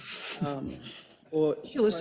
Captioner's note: laugh